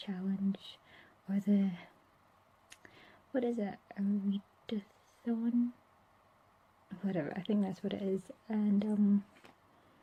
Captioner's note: clicks tongue